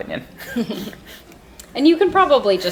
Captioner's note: laughing